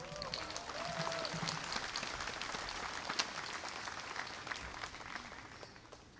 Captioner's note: applause